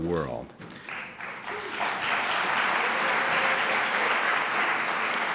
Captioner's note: audience applauds